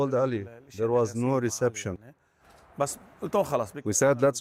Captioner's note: speaking alternate language